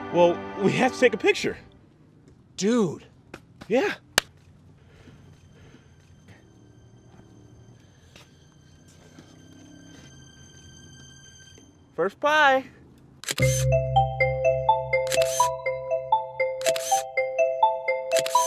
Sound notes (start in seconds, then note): 7.2 suspenseful music; 13.4 camera clicking; 13.4 upbeat music